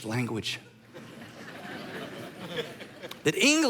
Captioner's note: congregation laughing